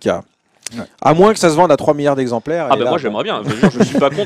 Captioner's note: laughs